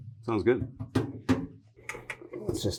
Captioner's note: metal thumping